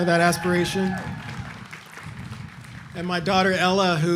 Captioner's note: audience cheering